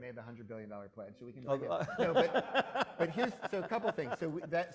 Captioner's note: audience laughter